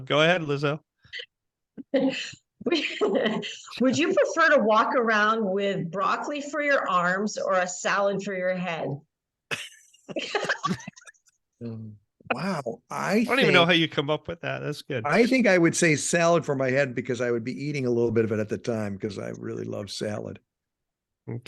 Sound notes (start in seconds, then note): 2.7 laughing; 9.5 all laughing